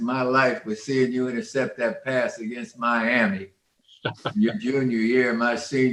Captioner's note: a panelist laughing